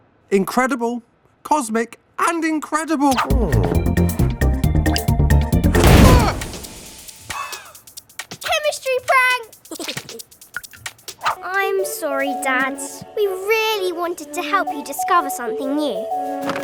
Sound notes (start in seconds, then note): 5.6 dad yelling; 9.7 giggles